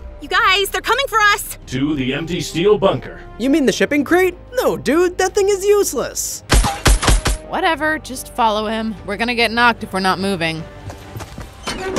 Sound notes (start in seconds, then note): 6.5 gun shots firing; 11.3 door creaks